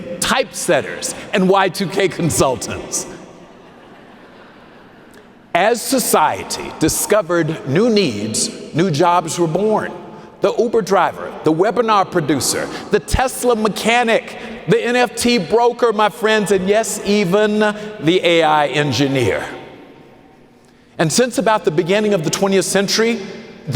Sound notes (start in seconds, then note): 3.4 audience laughing